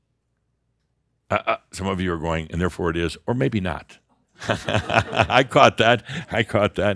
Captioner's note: Adamus chuckles